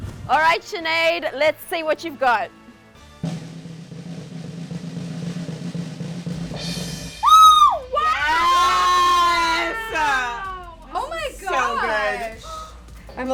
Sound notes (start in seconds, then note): 3.2 drum roll; 7.2 women exclaiming